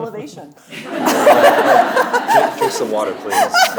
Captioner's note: audience laughing; laughing